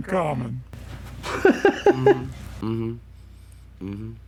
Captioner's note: laughs